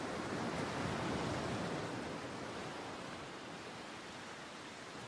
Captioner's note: waves crashing